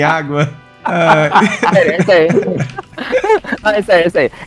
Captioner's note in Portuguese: risos